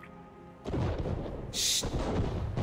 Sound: cannons firing

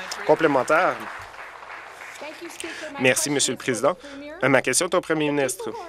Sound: applause

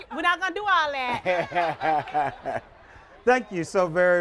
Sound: laughter

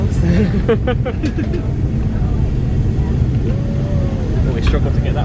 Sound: laughing

